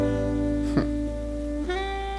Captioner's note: hmph